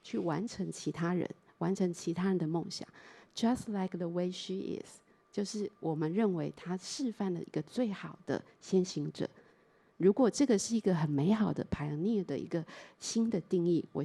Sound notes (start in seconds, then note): 0.1 Mandarin; 5.3 Mandarin